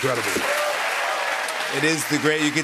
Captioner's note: cheers and applause